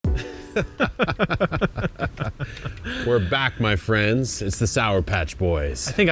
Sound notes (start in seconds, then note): 0.1 laughing